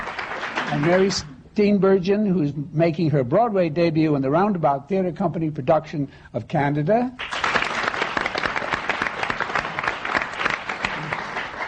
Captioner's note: applause; applause